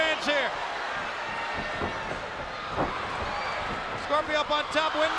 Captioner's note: spectators cheering; wrestler stomping